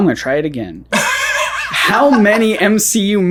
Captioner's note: laughs